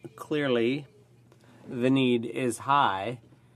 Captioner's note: speaking French